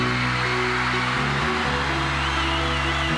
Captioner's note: upbeat rock music; audience cheering